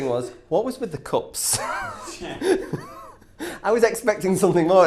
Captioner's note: laughs